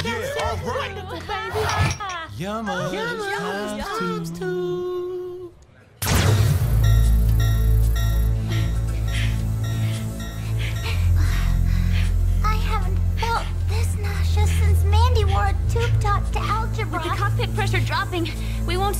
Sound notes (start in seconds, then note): 0.1 all cheering; 6.5 beeping; 8.6 all breathing heavily